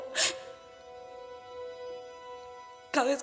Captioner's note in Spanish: Sollozo